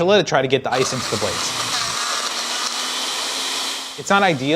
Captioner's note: blender whirring